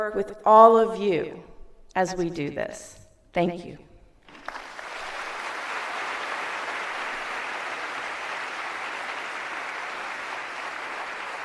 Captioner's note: applause